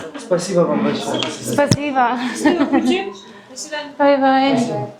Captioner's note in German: gelächter